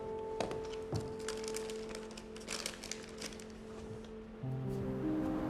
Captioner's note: package rattling